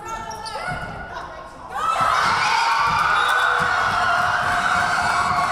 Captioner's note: Tigers cheering